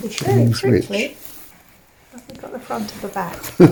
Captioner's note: laughter